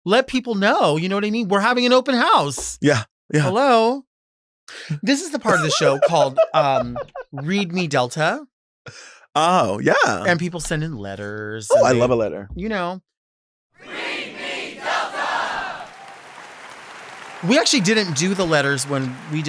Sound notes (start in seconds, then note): 5.5 Sapphira laughs; 16.1 audience applauds